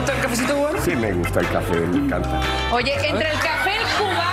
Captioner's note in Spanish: aplausos